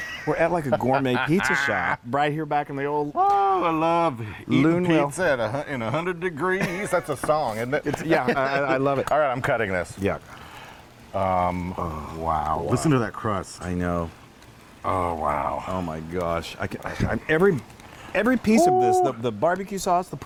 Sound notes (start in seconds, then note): 0.0 laughs; 11.7 crust crackles